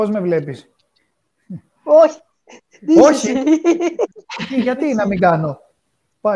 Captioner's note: Γέλια